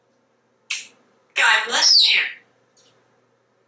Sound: sneezing

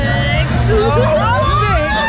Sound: all laughing

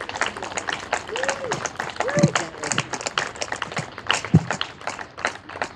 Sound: applause and cheering continue

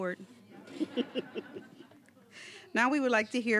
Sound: all chuckling

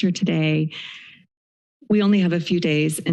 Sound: pause

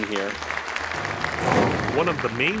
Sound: applause

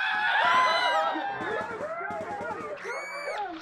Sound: gunfire sounds and screams

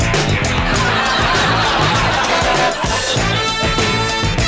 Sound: audience laughs

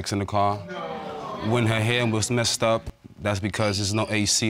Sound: audience exclaiming

